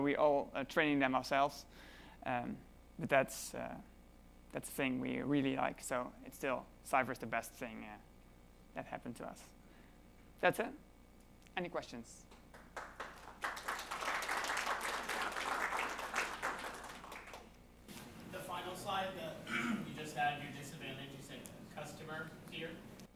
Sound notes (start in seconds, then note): 12.5 applause